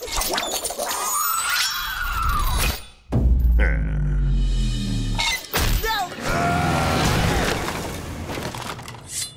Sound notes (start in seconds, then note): 7.1 thudding